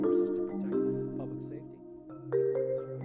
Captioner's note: voice fades